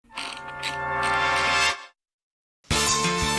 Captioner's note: wheel clicks